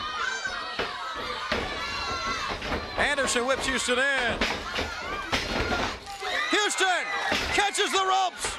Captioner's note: crowd chatter